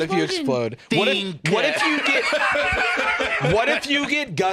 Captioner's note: laughs